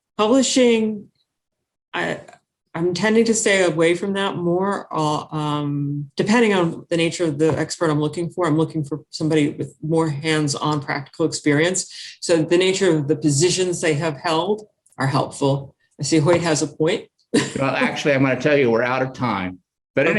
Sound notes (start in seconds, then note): 17.4 chuckles